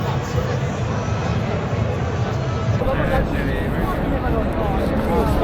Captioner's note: people Chattering